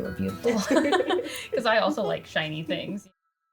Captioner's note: both laugh